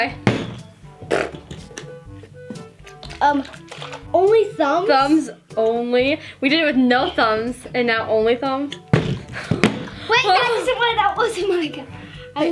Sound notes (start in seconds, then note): 0.1 bottle landing; 8.7 bottles landing